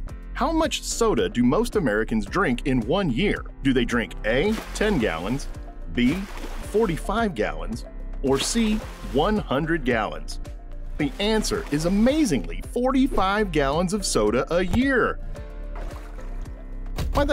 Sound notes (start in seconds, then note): 4.4 soda splashing; 8.2 soda splashing; 15.4 soda draining